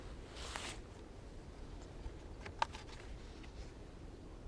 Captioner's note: rustling